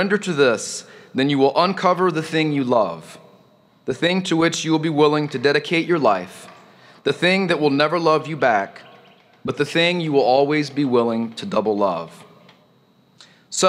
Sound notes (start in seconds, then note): none